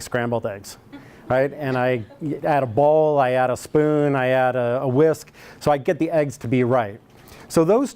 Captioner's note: laughter